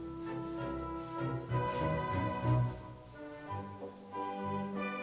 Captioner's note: fabric rustling